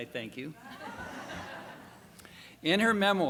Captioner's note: laughter